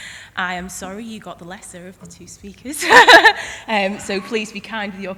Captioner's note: laughs